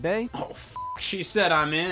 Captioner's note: beep